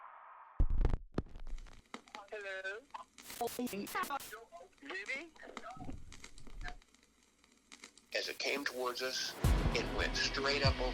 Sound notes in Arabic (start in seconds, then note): 2.1 راديو am ثابت